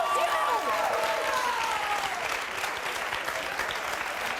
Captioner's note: audience clapping